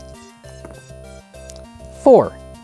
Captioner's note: dice rattling; dice rolling